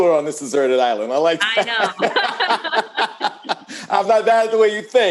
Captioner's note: laughs